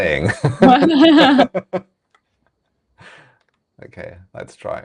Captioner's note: laughing